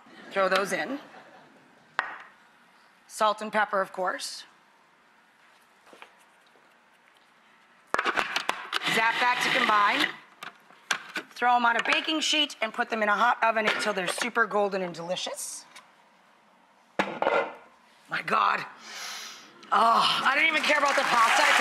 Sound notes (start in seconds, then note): 1.0 audience laughs; 19.0 sniffs; 19.7 sighs